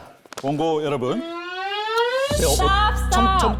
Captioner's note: Sound of Attorney Go trying something sneaky